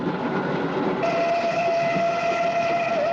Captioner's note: train whistle